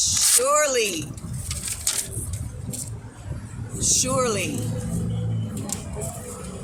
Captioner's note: paper rips; more paper rips